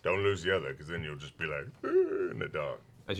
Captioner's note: scared noise